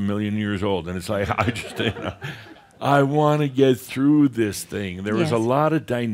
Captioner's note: more chuckles